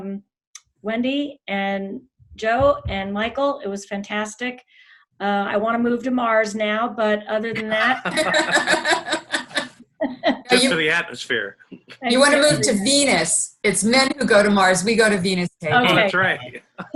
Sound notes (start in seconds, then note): 7.5 laughing loudly; 10.5 laughing